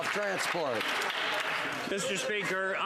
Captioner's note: some Applause